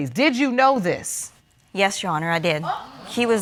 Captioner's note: audience exclaiming